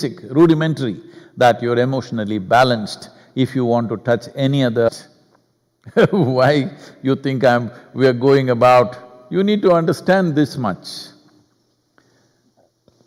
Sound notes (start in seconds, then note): 5.9 laughs